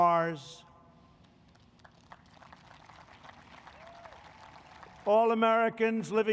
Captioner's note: applause